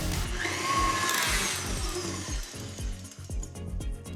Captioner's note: mixer whirring